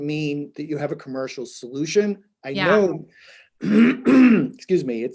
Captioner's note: coughs